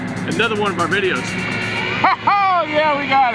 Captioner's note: hoist whirring